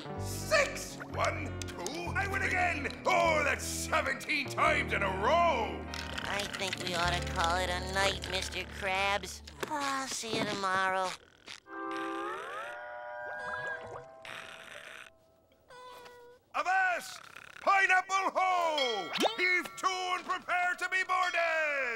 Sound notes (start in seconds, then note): 9.1 sighing; 12.7 snoring